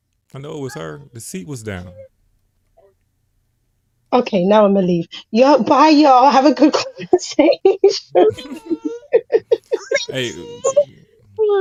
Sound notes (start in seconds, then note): 9.5 laughter